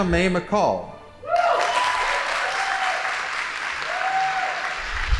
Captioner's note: audience applauding